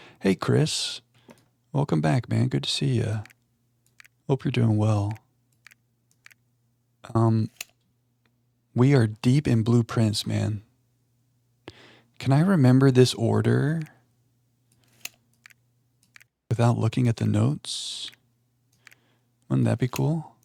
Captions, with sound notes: Hey, Chris. Welcome back, man. Good to see you. Hope you're doing well. (keyboard clicking) We are deep in blueprints, man. Can I remember this order without looking at the notes? Wouldn't that be cool?